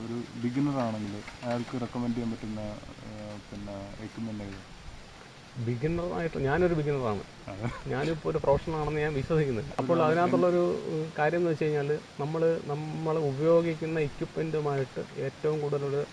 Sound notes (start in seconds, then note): 11.1 laughs